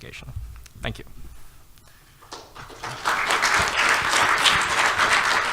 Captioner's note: audience applauding